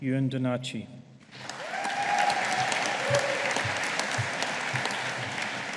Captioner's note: audience applauding